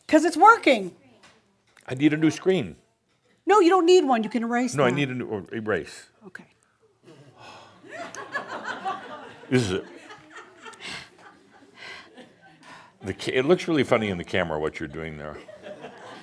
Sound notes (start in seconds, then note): 7.4 sighs and some laughter; 15.4 more laughter